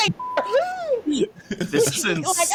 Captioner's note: screaming